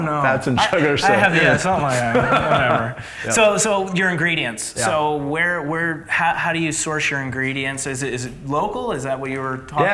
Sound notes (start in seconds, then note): 2.2 laughs